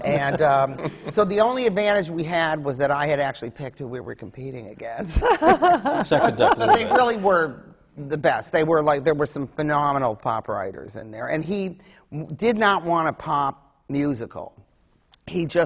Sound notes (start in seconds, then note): 0.2 laughter; 5.0 laughs